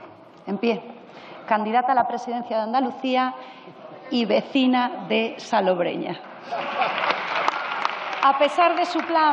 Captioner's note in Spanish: aplausos y risas